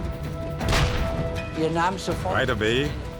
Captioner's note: tank turret firing